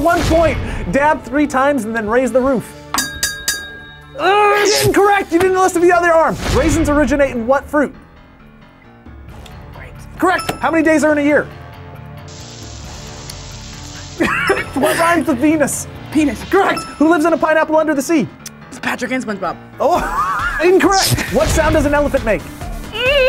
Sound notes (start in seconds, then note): 2.9 bell rings; 9.1 whispers; 13.6 whispers; 14.0 both laugh; 19.9 laughs